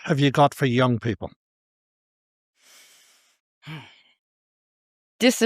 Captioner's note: sighs